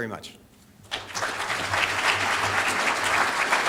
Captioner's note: audience applauding